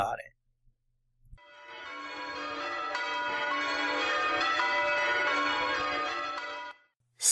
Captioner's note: church bells fading in, then fading out